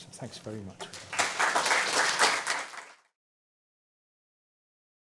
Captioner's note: applause